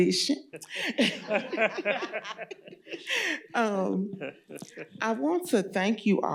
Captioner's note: laughter